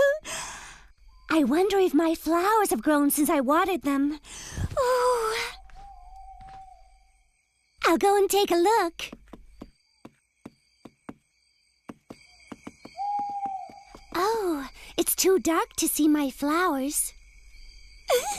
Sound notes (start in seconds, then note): 12.9 owl Hoots